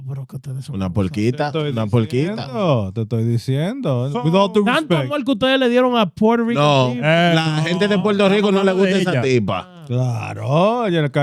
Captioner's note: speaking In Foreign Language